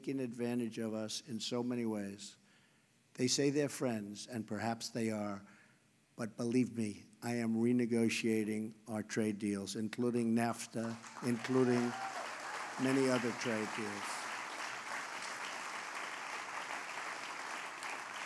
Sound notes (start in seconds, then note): 12.3 applause